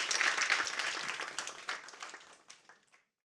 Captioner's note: applause